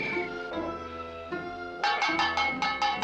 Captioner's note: clanging